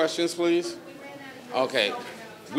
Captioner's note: speaking faintly